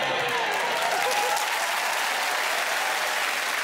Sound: cheering, applause

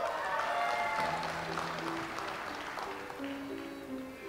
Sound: audience applauds

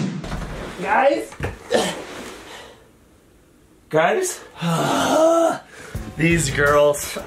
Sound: grunts

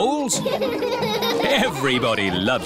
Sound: all laughing

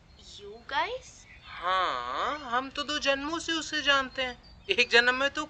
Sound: mocks sarcastically

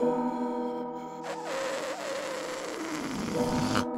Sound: gasping; balloon deflating

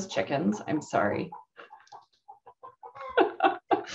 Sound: laughs

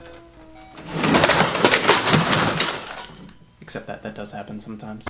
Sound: objects breaking

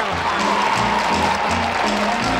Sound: audience cheering

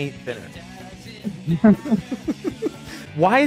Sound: laughter

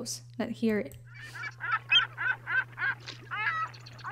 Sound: seagulls squawking

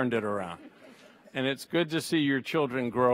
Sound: audience laughs

